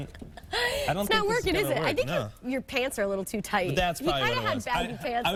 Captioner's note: laughter